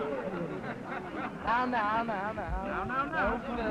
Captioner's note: crowd ambience